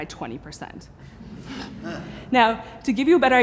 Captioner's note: laughing